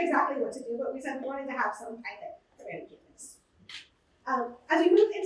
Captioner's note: muffled voice